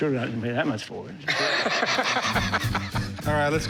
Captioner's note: laughter